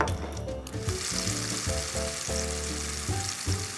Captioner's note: pan sizzles